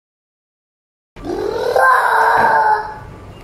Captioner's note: bruouuuuuuuuuuuuuuuuhhhhhhhh